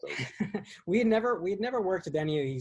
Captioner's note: laughs